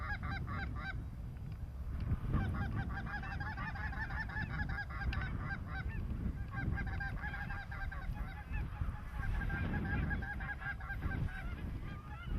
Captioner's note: geese honking